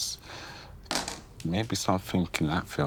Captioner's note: dice clattering